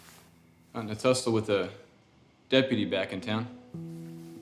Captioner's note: speaking in foreign language